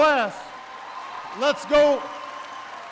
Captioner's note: applause